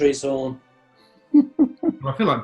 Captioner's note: chuckling